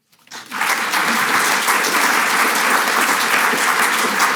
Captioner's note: audience clapping